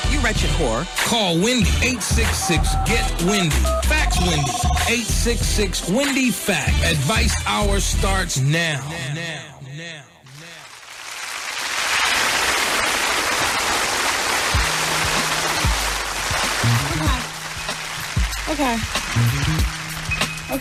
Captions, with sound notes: You're at your core. Call Wendy 866-GET-WINDY. Fax-Wendy 866-Wendy Fax. Advice hour starts now. Now, now, now. (audience applauding) Okay, okay.